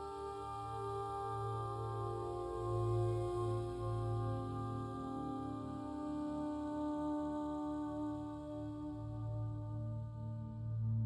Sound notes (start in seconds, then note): none